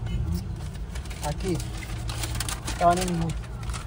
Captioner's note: in Swiss German